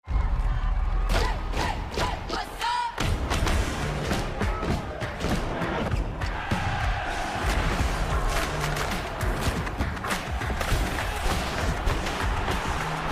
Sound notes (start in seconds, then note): 0.2 crowd cheering